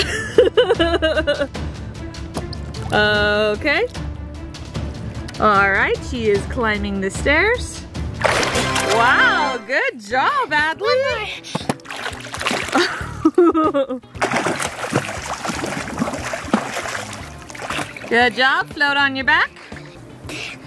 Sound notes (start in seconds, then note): 0.0 laughing; 12.6 laughing; 14.1 splashing